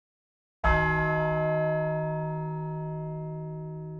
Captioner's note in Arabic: قرع الجرس